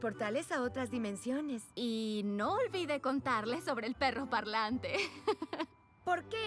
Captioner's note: giggle